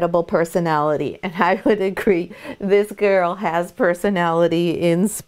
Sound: laughs

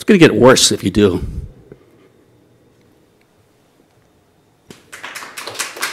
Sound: applause

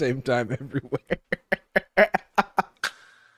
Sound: chuckles

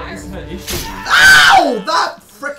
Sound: scream

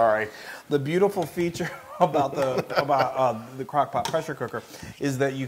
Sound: laugh

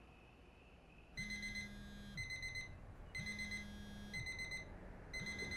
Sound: alarm beeping; phone vibrating

